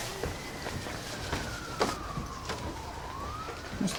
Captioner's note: sirens